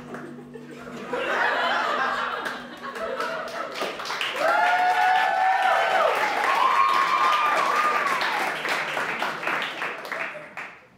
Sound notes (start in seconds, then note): 2.3 applause